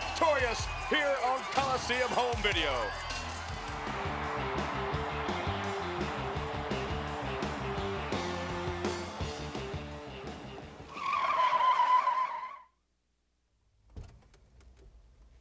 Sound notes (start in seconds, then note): 4.3 upbeat rock music; 10.0 brakes squeal